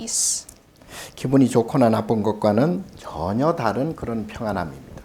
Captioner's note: speaking Korean